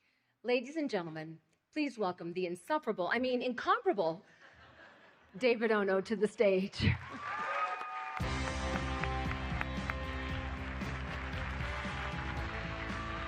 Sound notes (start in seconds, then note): 6.9 cheering